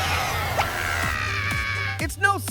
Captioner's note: Little Apple screaming